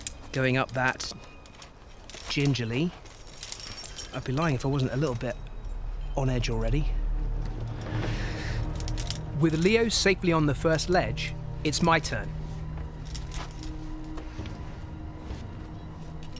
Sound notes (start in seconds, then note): 7.9 sharply inhaling; 13.8 tense music